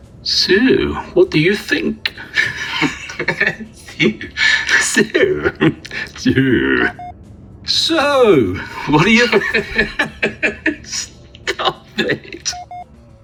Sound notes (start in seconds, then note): 7.7 uncontrollable laughter